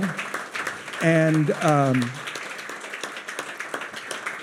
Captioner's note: audience applauding